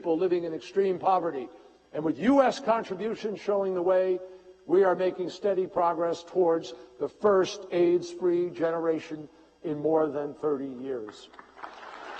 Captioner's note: applause